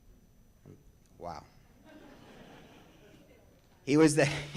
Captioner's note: audience laughs